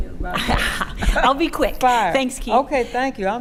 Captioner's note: laughing